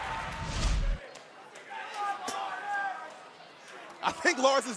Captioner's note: crowd chatter